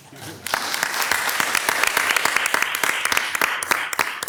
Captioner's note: audience clapping